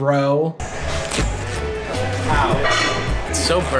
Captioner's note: shirt ripping